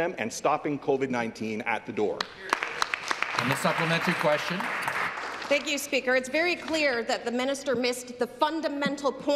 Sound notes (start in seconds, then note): 5.3 some Applause